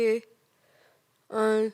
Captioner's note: soft breathing